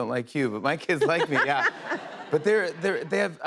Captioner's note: laughter